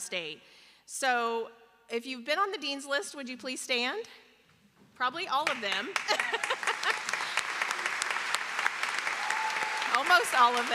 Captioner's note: applause